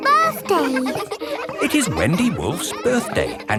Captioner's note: kids laughing